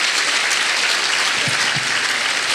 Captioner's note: applause